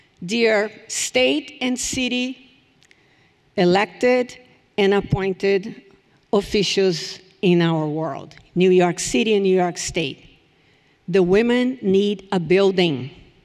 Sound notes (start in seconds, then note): none